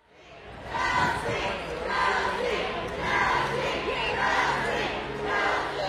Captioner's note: crowd